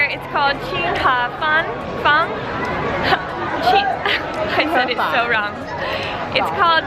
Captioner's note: laughing